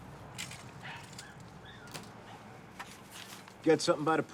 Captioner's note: keys rattling; dog barking